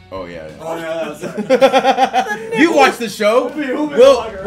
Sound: laugh

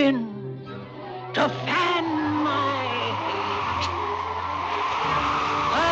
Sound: wind whooshing

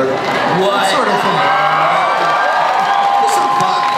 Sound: audience cheers

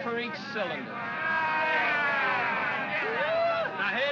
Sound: men clamor

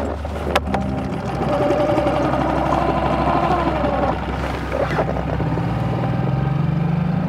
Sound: boat spluttering; dramatic music

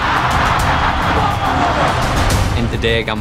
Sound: crowd

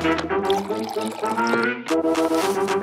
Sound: coffee dripping

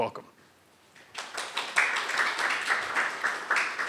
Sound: applause

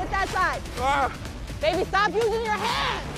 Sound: groans

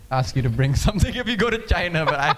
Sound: laughing

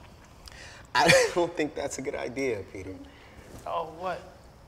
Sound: laughs

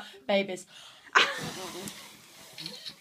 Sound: laughs

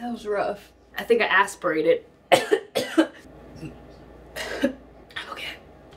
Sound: coughing

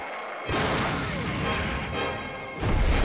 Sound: blasting; booming

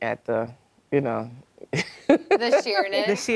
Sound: laughs

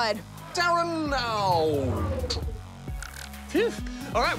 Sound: powers down

